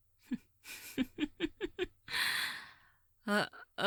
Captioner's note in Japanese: 笑い